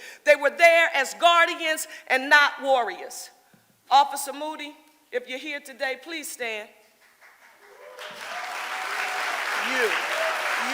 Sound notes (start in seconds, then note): 7.1 audience applauding